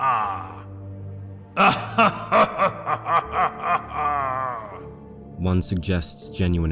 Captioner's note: laughs